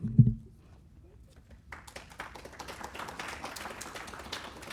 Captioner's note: audience Applauding